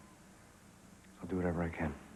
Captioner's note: none